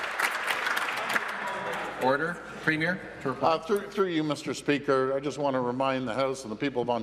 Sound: some Applause

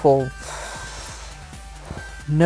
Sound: exhales

